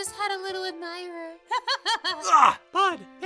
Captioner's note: laughs